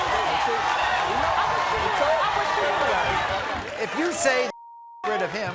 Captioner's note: crowd roaring